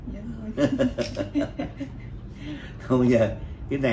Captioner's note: laughs